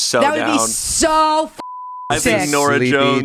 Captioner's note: beep